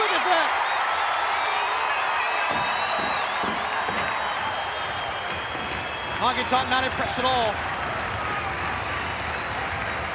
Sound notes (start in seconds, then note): 5.1 crowd stomping rhythmically